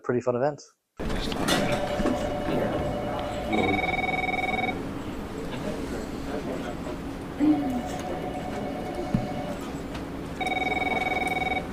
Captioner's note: robot shooting noises, alongside office sounds